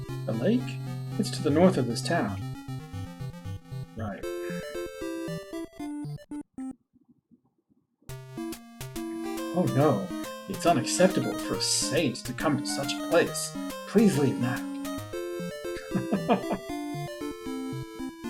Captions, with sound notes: "The lake? It's to the north of this town." Right. "Oh no. It's unacceptable for a saint to come to such a place. "Please leave now." [chuckles]